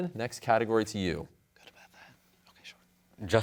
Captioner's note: whispers